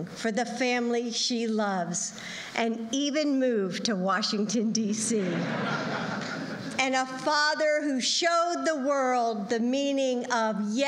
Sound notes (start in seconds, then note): 5.2 laughter